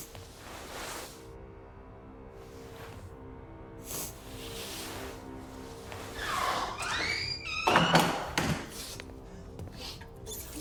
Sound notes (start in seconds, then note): 1.2 tense music; 6.0 door creaking